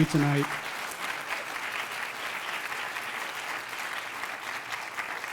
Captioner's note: applause